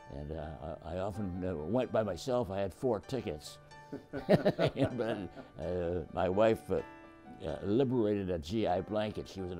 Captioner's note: laughs